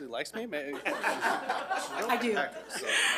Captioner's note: board members laugh